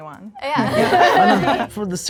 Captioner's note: group laughing